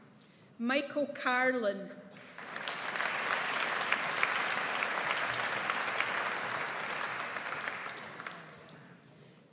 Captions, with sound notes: Michael Carlin. (AUDIENCE APPLAUDS)